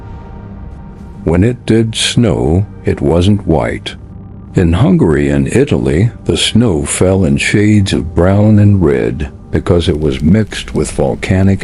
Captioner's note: sarcastic Commentary